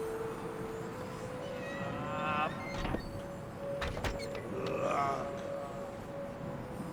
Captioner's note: distorted voices